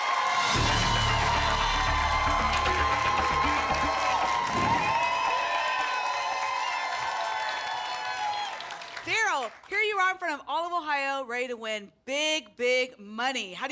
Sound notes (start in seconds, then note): 4.4 whoosh; 5.4 applause and cheering